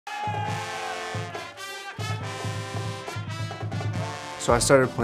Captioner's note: crowd cheering; band music